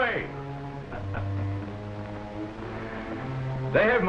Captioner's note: laughing